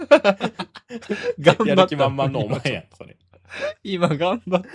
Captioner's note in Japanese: 笑い